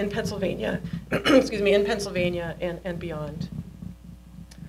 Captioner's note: clears throat